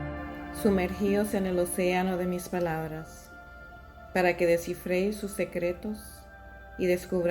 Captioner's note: in Spanish